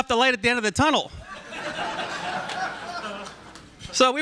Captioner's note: laughter